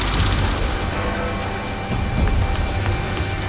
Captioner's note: chiming